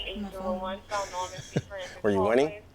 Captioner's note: laughs